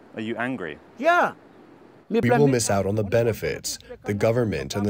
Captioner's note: through translator